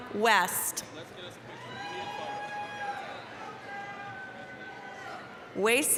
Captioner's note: applause, cheering